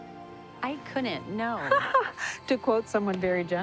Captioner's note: laughing